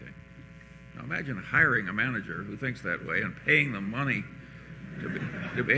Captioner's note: laughter